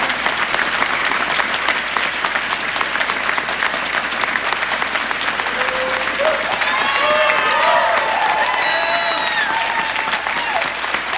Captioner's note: applause